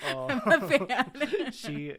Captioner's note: both laughing